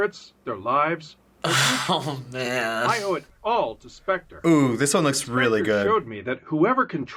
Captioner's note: chuckles